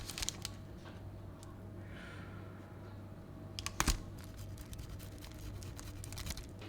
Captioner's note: grating parmesan too